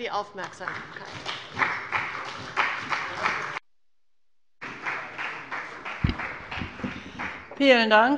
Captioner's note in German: Beifall bei der CDU und dem BÜNDNIS 90/DIE GRÜNEN